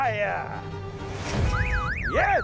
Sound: car alarms sounding

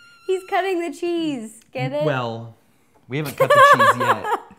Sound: high-pitched squealing sound

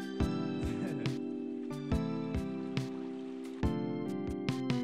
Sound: laughs

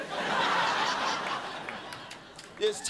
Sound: crowd laughing

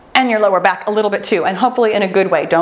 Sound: timer beeps

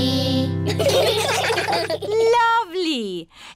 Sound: children giggling

